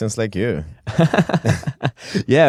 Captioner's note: laughter